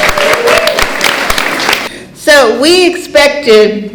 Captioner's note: cheering & Clapping